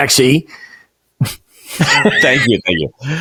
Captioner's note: laughing